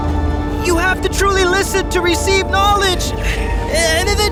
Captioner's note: wind gusting